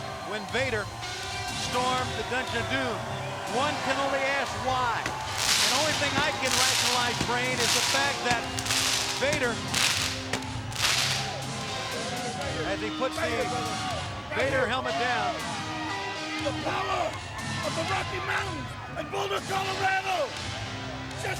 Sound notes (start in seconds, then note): 4.7 crowd clamoring; 10.6 fireworks exploding